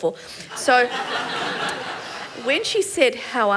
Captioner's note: laughter